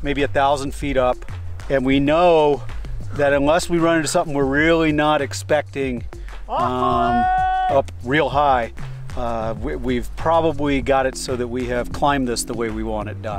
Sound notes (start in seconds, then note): 6.5 shouts